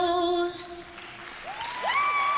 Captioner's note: cheering